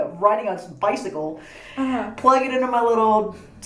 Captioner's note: laughing